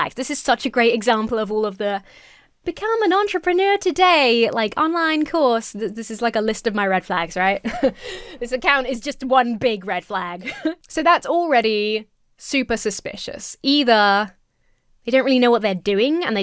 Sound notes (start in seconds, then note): 7.6 chuckles